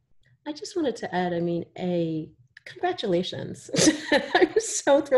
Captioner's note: chuckles